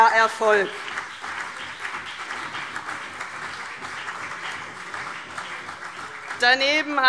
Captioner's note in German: Beifall CDU und BÜNDNIS 90/DIE GRÜNEN